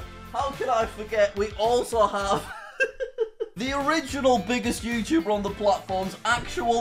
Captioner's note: chuckles